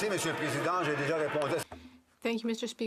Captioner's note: some Applause